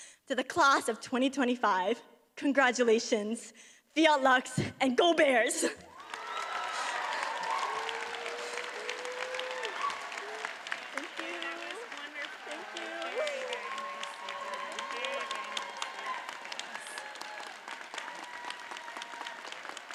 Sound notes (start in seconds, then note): 6.0 audience cheers and applauds; 15.8 cheers and applause continue